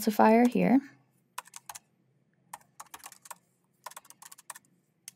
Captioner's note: keyboard clacking